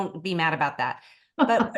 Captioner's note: laughter